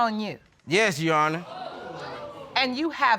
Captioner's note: audience exclaiming